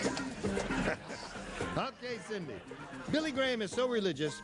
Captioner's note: laughs